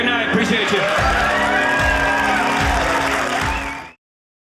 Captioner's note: audience cheering